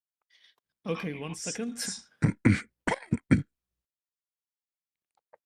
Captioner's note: clears throat